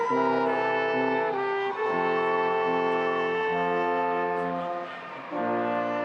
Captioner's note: audience applauding and cheering